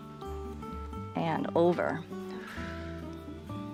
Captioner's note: exhales